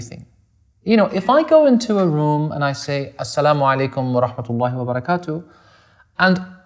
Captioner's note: speaks in foreign language